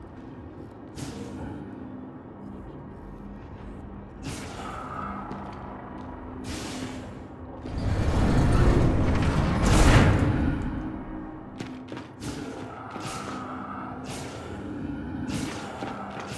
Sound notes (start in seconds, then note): 5.1 footsteps; 11.4 footsteps; 12.0 tense music; 15.4 grunts